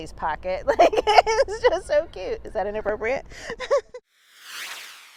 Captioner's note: laughs